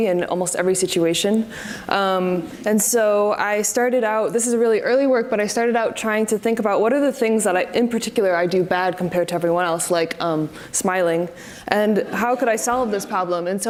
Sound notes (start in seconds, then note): 10.9 audience laughs